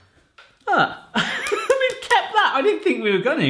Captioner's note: laughs